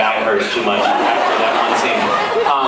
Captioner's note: laughs